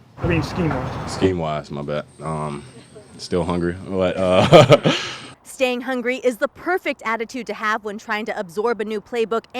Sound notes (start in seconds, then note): 4.2 laughs